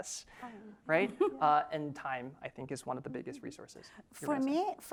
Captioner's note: laugh